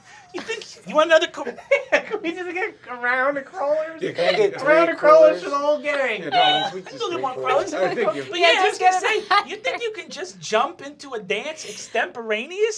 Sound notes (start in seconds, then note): 1.9 laughing; 5.9 laughing